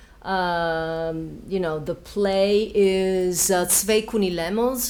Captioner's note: speaking Yiddish